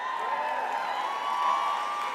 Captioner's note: crowd cheers